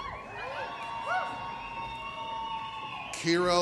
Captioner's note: audience cheers